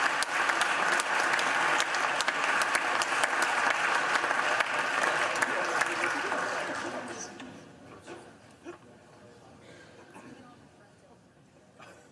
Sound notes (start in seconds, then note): 8.2 applause